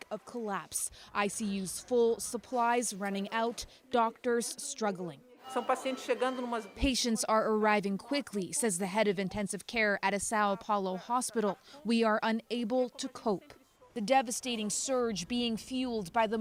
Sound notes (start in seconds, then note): 10.0 speaking Foreign Language